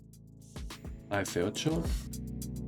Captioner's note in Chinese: 英语